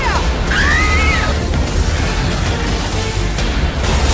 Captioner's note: ladies screaming